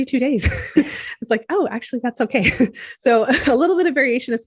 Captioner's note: chuckles